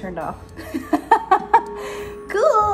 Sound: laughs

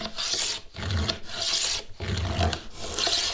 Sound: drilling

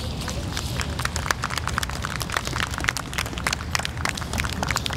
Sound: audience applauding

